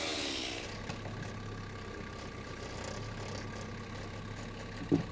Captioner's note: engine revving